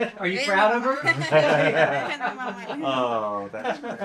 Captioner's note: laughing